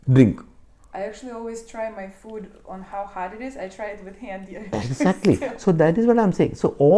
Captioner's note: laughs